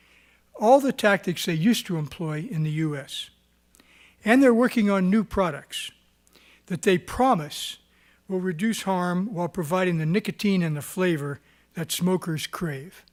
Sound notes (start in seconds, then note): none